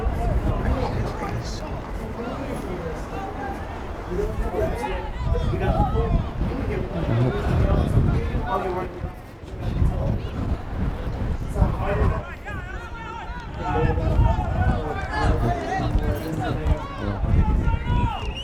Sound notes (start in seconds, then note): 12.2 players yelling